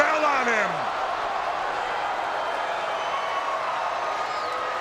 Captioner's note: crowd yelling